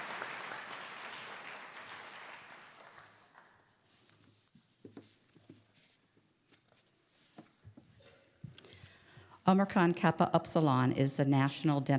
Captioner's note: applause